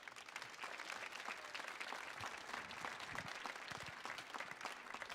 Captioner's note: audience applauding